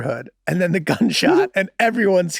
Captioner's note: Charlie laughing amusingly